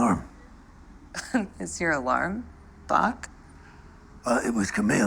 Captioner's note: chuckles